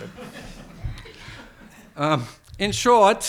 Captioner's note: attendees laughs